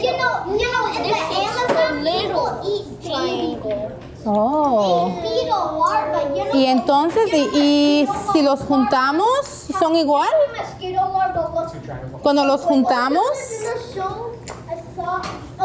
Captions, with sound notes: And this is a little triangle. >> [in Spanish] Oh. So if we put them together, are they the same? When we put them together?